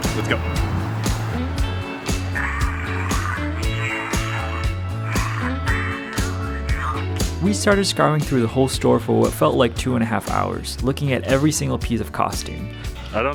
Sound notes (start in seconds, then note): 0.1 lighthearted, upbeat music; 7.7 prop exclaim creepily